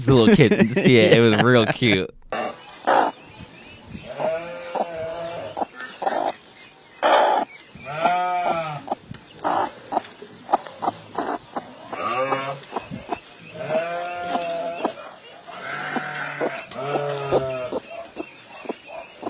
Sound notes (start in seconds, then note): 0.0 laughs; 2.4 chicken clucking; 2.4 cow mooing